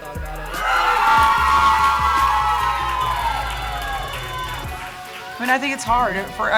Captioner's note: cheering